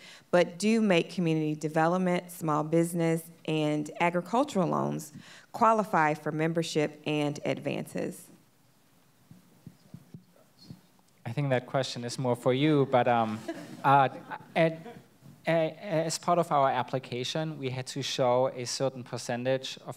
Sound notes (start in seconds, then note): 13.2 audience laughs